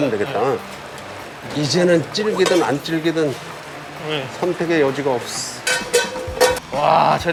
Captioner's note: simmering